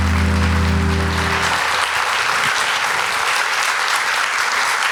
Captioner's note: applause